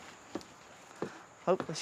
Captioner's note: shoes clonking